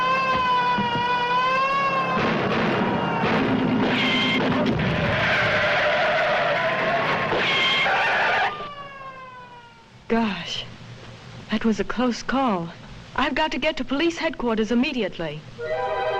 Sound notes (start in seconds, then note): 2.1 gun bangs; 5.1 tires screeching; 15.6 light dramatic music